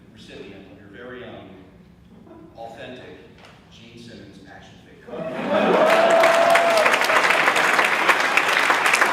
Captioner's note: audience cheers, laughs, and claps